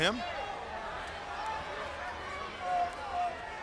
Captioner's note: crowd yelling